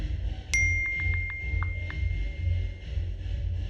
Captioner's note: muffled club music; iPhone message pings